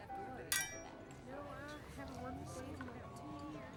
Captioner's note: glasses clinking